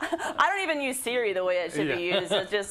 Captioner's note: laugh